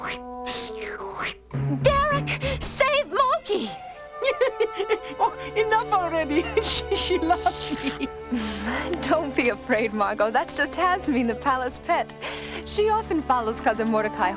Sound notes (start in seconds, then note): 4.0 laughing